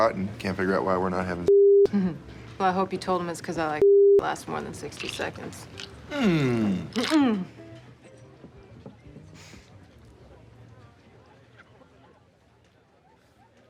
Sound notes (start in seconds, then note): 1.6 chuckles